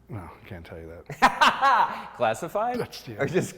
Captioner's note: laughs